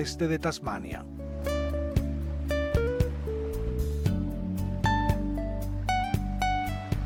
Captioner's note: sound of waves